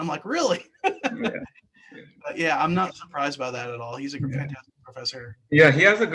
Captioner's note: laugh